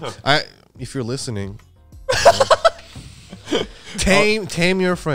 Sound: laughing

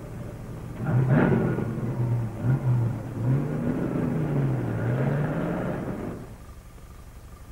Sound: truck engine revs

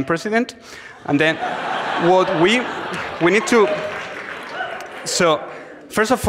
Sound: audience laughs, claps, cheers

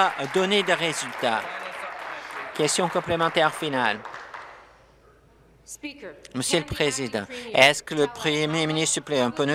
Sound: applause

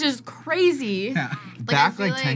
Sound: laughs

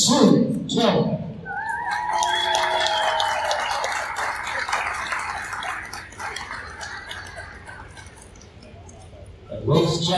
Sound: cheers and applause from the crowd

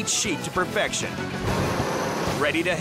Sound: machine humming

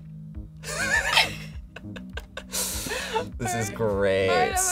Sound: laughs

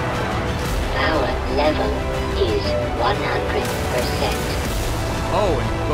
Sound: H.E.V. Suit Voice

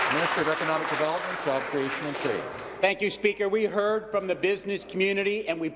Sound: some Applause

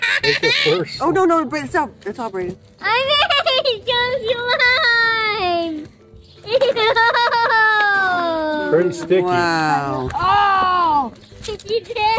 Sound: laughing

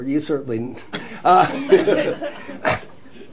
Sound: laughter

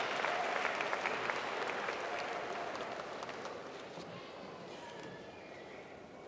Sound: applause

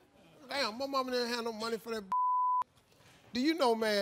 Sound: beep

